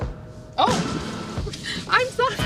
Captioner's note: laughs